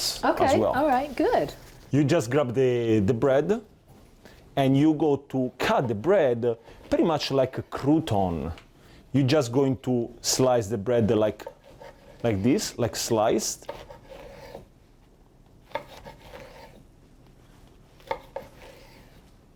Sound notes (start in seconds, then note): 14.5 knife scraping on cutting board